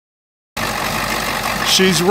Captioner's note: engine idling